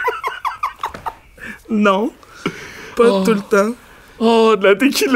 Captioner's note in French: éclat de rire